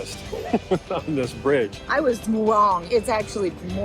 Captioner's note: laughs